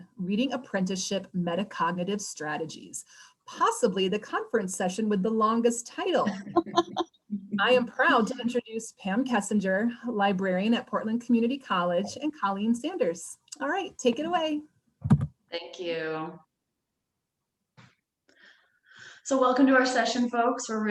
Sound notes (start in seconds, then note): 6.2 laughs